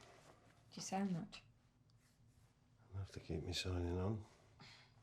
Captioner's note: none